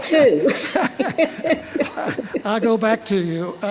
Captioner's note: laughter